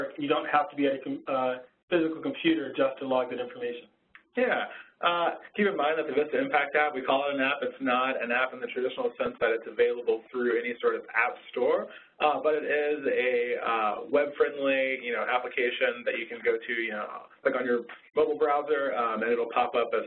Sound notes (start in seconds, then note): 4.5 voiceover